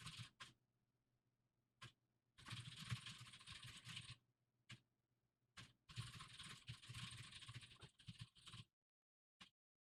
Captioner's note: typing sounds